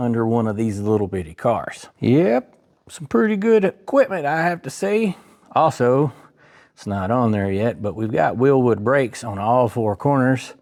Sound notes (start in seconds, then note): none